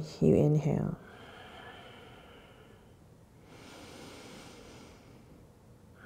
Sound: deep breathing

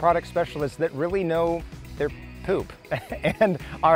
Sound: laughs

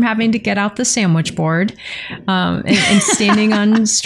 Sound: laughter

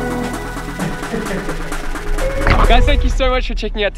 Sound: laughs

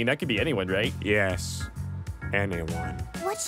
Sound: quietly

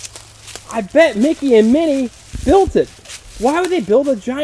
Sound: voiceover

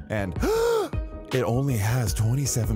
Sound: gasps

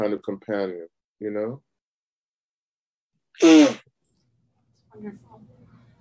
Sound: sneezes

